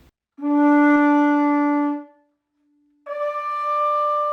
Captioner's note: conch shell blaring